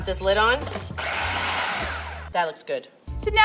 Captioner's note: machine whirring